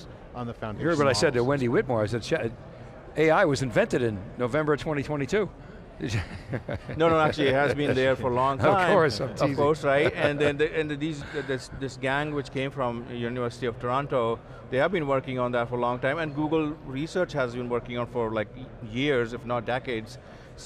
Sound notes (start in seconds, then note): 6.0 chuckling; 9.5 chuckling